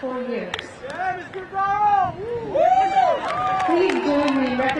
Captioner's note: graduate yelling